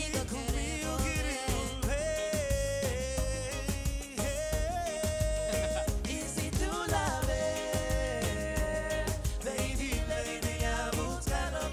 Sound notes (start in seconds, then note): 5.4 chuckles